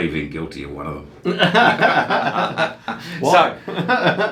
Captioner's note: laughing